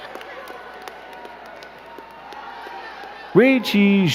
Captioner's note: crowd clapping